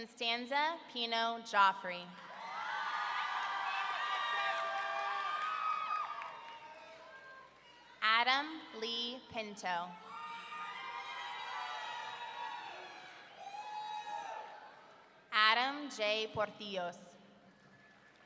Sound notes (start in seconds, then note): 2.2 audience cheering; 10.0 audience cheering